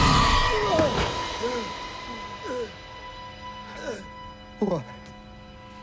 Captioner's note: pensive music; Sinclair gasping